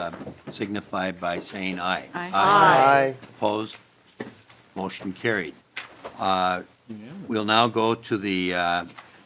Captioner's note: chorus of ayes